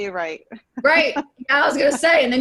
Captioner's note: chuckles